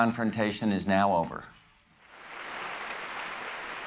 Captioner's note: applause